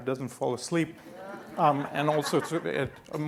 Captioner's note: laughing